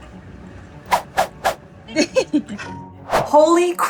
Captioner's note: background music; laughing; sound effects